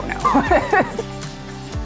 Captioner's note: all laughing